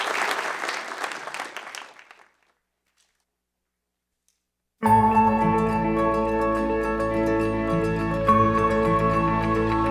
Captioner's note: applause